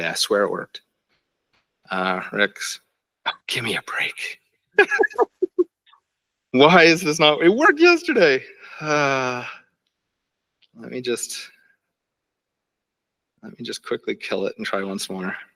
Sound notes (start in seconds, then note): 4.8 laughs